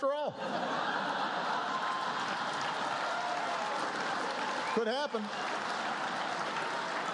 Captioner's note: laughter, applause